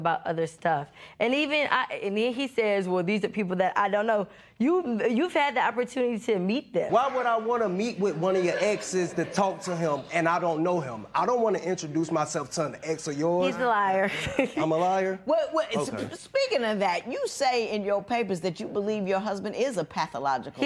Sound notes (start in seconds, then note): 14.0 chuckles